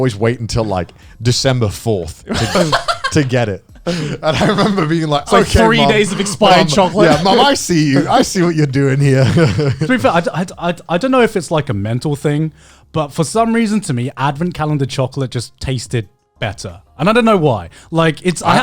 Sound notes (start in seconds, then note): 3.8 chuckling; 12.1 chuckling